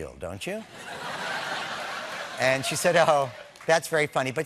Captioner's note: laughter